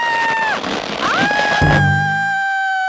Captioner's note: screaming